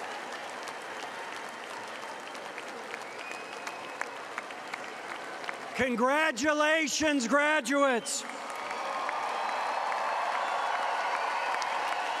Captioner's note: applause